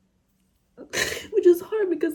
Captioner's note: sniffles